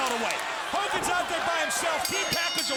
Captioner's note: bell dinging